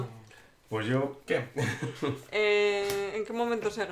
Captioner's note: laughs